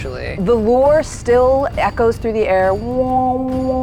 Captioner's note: imitates echo